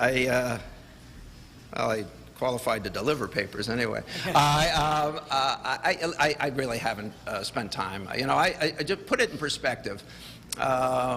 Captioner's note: laughter